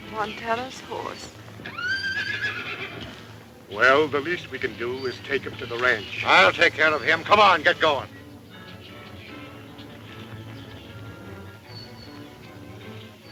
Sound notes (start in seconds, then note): 1.5 horse whinnies; 9.1 dramatic music